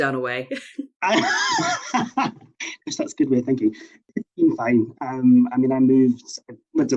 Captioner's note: laughs